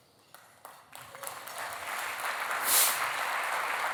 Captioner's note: applause